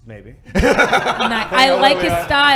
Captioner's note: laughing